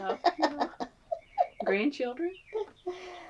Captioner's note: laughs